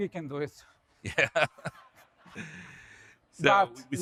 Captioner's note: laughs; audience laughs